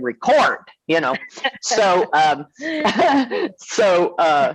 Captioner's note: laughing